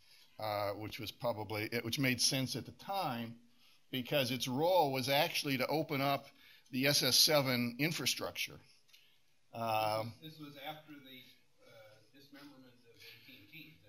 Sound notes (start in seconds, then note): none